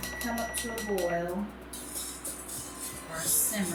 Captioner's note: beeping